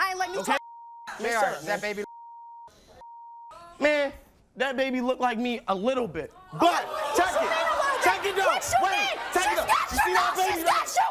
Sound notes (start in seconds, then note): 2.0 beep; 6.4 audience cheers